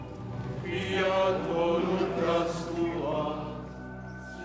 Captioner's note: men chanting